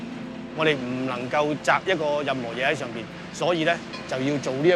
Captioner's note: Cantonese